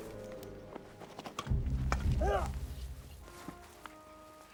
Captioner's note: Orn yells